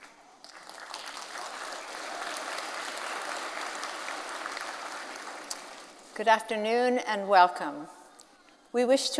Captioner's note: applause